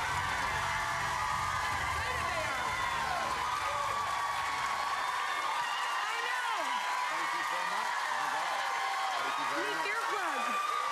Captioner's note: cheers and applause